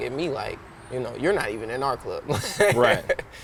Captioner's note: laughing